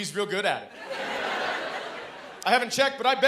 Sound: laughter

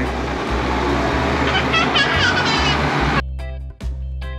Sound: laughs; reggae instrumental music

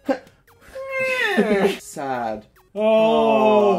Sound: happy noise

